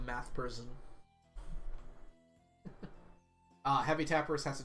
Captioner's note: chuckles